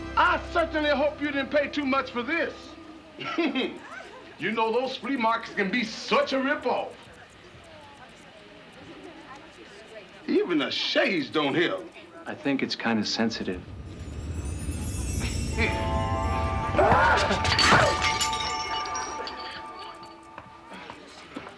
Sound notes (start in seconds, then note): 3.2 chuckles; 13.2 rumbling; 16.7 screams; 17.6 glass clattering